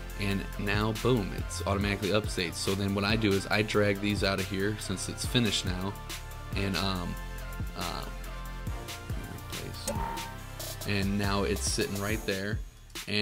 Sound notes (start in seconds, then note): 9.8 spring reverberates